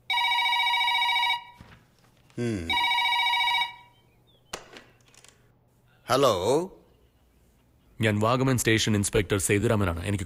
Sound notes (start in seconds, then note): 0.0 Phone rings; 2.7 Phone rings